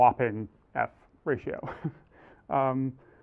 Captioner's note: laugh